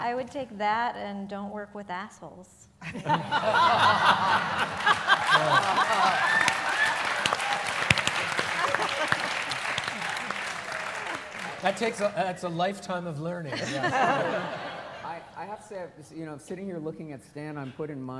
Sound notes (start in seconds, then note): 2.8 laughter; 4.4 applause